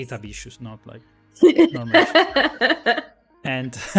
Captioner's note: laughs